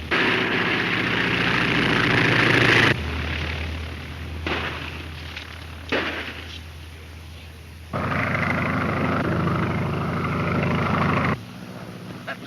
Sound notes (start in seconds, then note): 0.2 airplane engine roaring; 5.8 gunshots; 8.1 airplane engine roaring